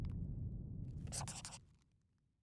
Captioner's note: scribbling